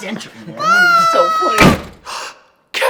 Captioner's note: door slams; gasps